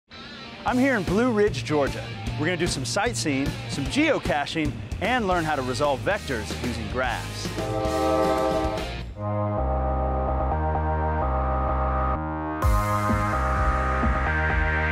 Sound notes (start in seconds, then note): 7.5 train whistle blows